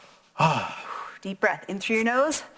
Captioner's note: sighs